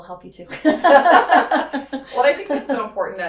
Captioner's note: laugh